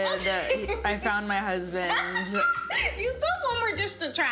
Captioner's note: laughs